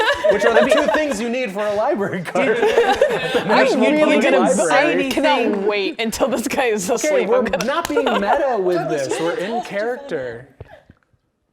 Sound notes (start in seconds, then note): 0.0 players laughing; 3.9 players laughing and chatting